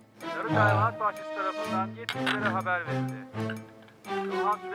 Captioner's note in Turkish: Televizyon ses